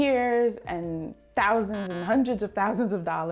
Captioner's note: buzzer buzzing